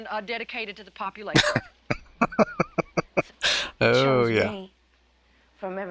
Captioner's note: laughing